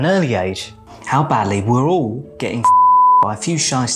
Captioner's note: beep sound